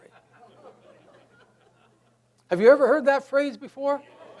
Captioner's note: audience laughs